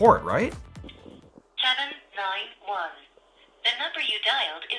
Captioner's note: automated voice